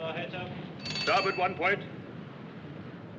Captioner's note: ringing